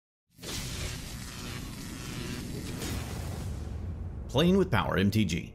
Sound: electricity crackling

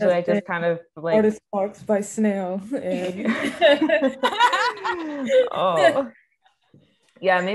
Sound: all laughing

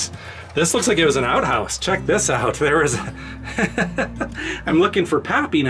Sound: laughter

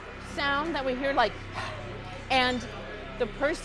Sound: exhales hard quick breath

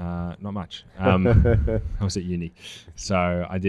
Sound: laughs

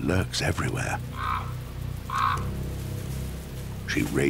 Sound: crow caws

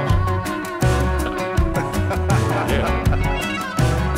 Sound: laughter

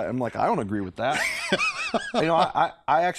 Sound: laughter

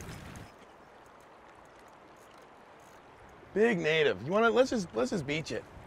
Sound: water flowing

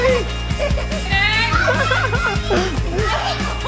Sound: laughing

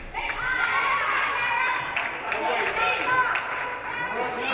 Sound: audience applauding

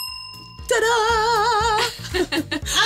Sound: bell dinging

